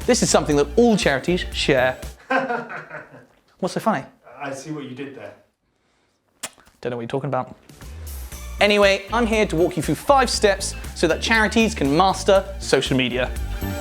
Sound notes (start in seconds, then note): 2.2 camera Man laughs